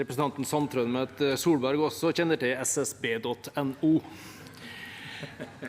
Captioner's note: Munterhet i salen